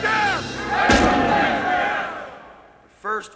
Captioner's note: gun firing